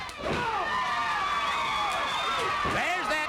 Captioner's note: crowd cheers